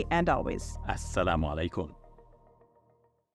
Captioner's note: speaking Arabic